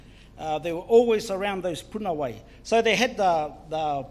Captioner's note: foreign Language; foreign Language; foreign Language